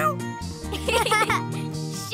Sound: laughing

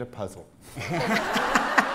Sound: laughter

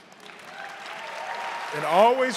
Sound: audience cheering and applauding

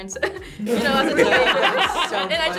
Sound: group laughs

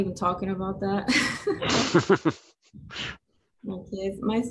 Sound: laughs

